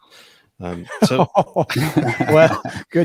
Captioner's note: laughing